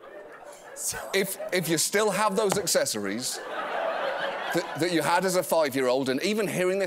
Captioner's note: laughter